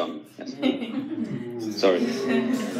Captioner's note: audience laughing and muttering